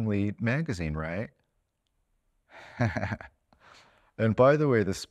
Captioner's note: laughing